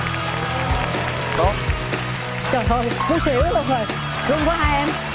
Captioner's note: applause